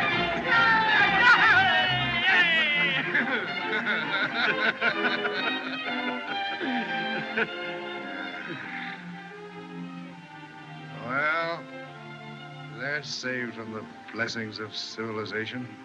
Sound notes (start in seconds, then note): 0.0 Curley, Doc Shouting; 2.0 both Laughing; 6.5 Doc Sighs